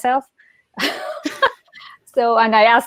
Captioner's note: laughs loudly